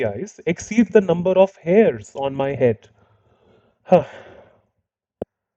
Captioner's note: sigh!